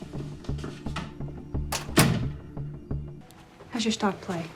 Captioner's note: door closes